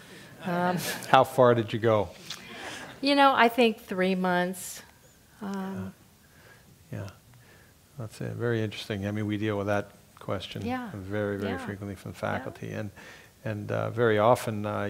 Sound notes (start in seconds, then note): 0.7 laugh